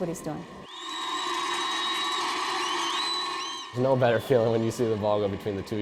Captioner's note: crowd cheers